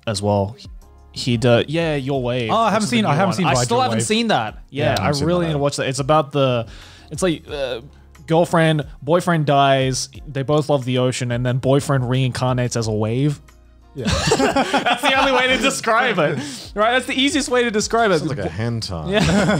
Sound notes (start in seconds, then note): 14.0 laughs